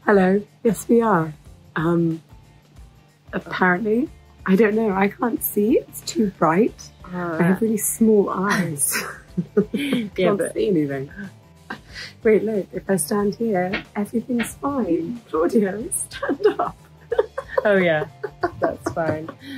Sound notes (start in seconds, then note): 8.9 chuckling